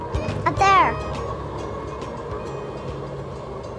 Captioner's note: bouncy music; train whirs; crossing bells dinging